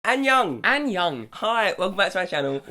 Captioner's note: speaks in foreign language